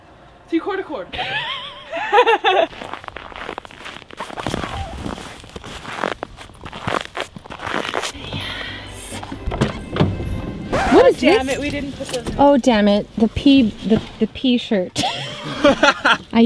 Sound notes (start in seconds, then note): 1.1 laughter; 2.1 crunching squeaky snow; 8.1 christmas music; 10.7 record scratch; 14.9 laughter